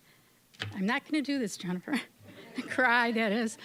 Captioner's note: voice wavering